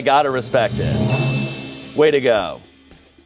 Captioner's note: bell chimes